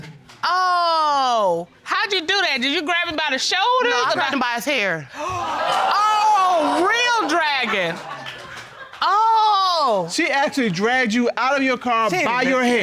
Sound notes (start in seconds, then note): 5.2 audience exclaiming